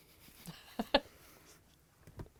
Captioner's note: chuckling